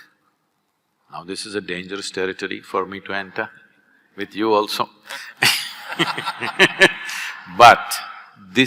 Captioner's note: laughter